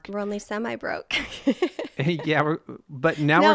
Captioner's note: laughs